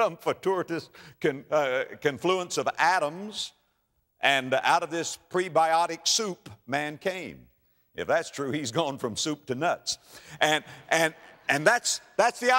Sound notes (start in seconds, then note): 10.1 audience laughter